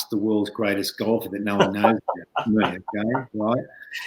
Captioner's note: laughing